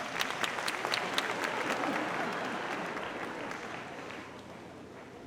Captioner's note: audience applauding